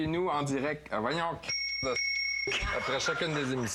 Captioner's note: bip!